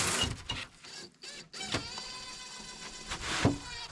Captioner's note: drill whirring